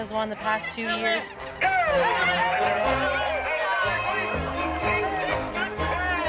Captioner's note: crowd cheering